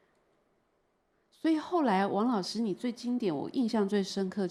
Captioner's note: Mandarin